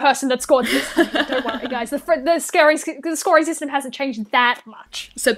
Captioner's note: laughter